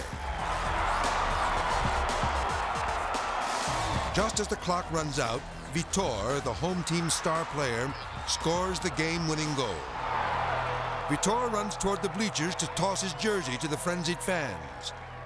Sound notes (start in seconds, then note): 0.3 crowd cheering; 9.7 crowd cheering